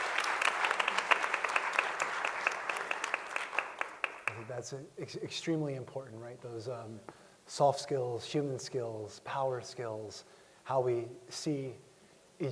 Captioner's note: applause